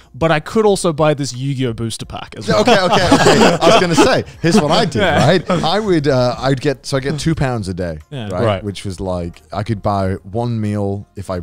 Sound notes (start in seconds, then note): 2.4 all laughing